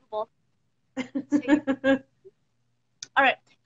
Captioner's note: laughs